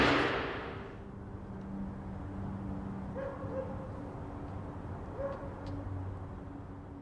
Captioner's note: distant traffic; dog barks faintly